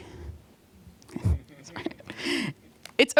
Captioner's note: laughter